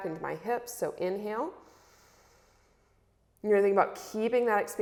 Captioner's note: inhales